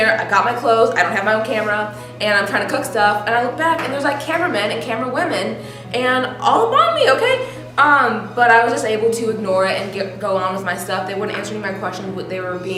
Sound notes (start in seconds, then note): 6.1 high-pitched voice